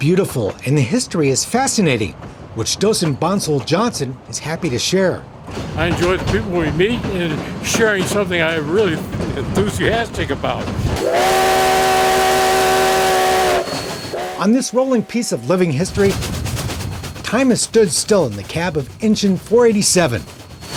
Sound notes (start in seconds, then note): 10.9 train whistle